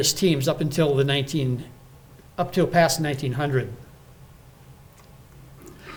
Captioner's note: none